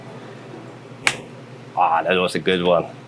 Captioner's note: stalk snaps